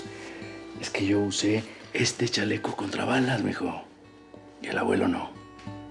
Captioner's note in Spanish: exhala